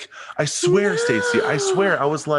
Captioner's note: gasps